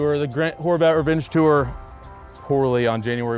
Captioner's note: none